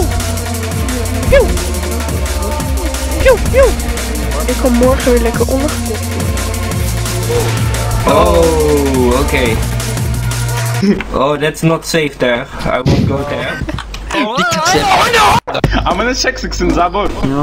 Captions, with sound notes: [In Russian] I want to get puked on tomorrow Okay, oh that's not safe there I won't go there